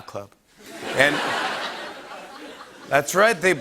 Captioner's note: laughter